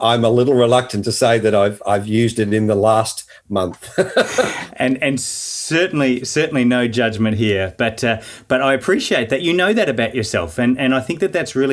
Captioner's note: laughing